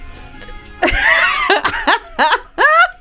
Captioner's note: laughing